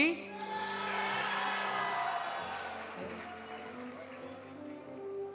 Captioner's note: audience applauding; audience cheering